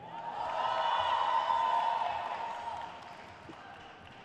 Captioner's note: crowd cheers